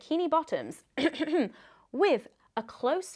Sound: clears throat

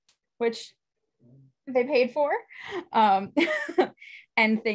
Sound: laughs

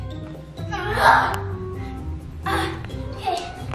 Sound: grunting

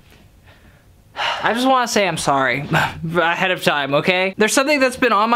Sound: sighs

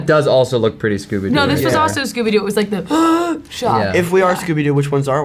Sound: gasp

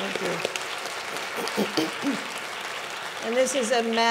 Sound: audience clapping

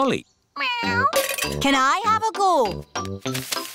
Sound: meows

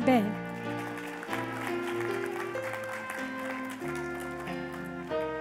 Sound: applause

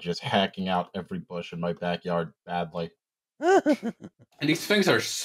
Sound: laughs

